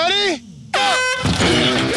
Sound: air horn blows; upbeat music plays

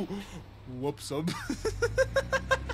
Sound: laughs

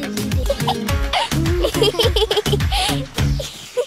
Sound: girls giggling

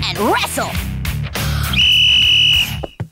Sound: whistling

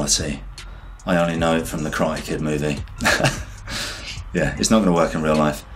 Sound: laughs

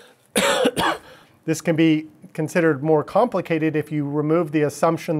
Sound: coughing

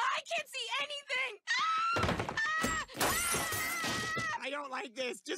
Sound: screaming

